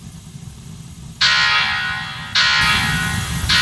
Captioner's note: blast Door alarm goes off